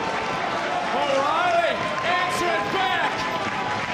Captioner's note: audience cheering